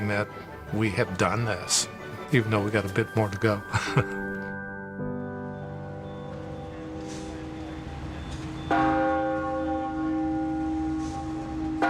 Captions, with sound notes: that we have done this, even though we got a bit more to go. (vehicle beeping) (bell ringing)